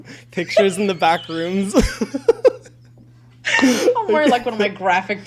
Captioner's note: both laughing